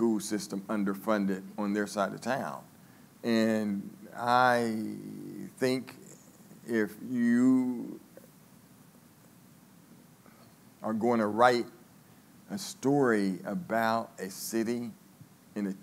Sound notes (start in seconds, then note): none